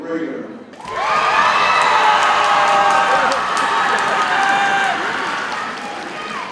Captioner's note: audience cheers and applauds